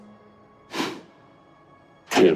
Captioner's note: scoffs